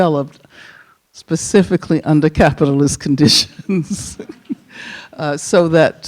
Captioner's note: chuckles